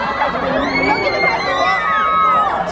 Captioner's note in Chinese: 尖叫